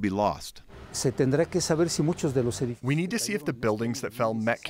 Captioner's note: through translator